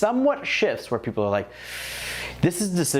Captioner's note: sharp breathing